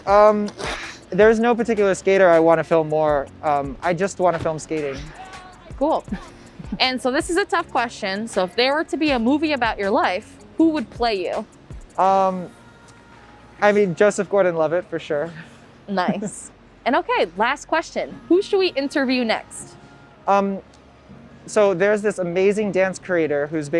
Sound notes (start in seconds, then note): 6.1 both laugh; 16.3 laughs